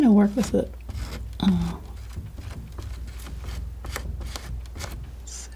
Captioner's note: tapping